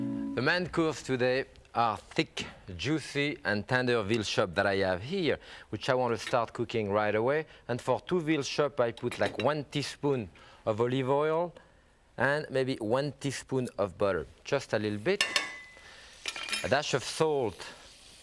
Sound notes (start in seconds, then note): 15.6 knocking sound